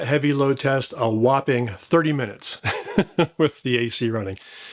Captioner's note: laughs